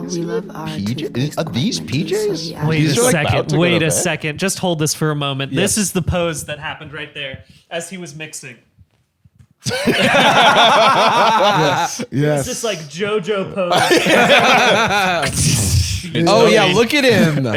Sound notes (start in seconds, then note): 9.6 all laughing